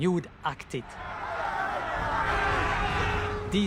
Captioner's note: crowd shouting